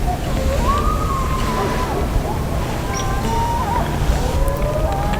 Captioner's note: whispered voices; coyotes howling